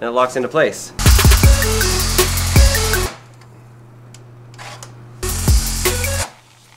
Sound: hip-hop music; electric whirring

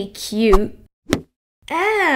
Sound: smack!

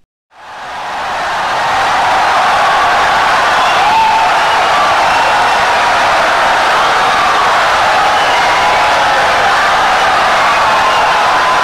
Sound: wild applause and cheering for 17 seconds

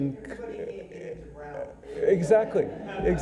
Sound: audience laughing

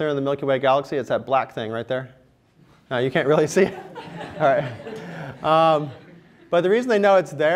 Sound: laughter

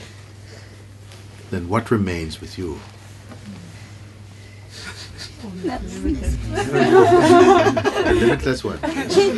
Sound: laughter

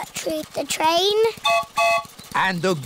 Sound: train whistle blows

